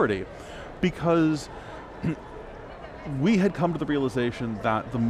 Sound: clears throat

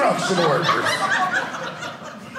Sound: audience laughing

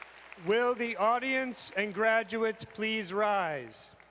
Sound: cheering and applause

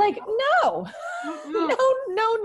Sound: laughs

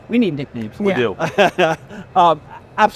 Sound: laughs

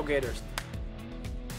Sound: clap

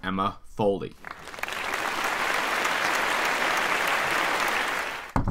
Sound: audience claps

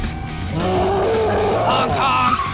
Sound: gorilla roaring

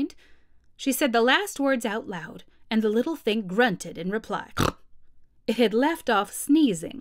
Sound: snort

